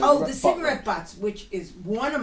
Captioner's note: voiceover